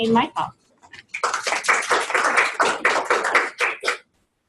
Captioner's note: crowd applauds